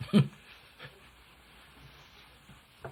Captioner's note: laughs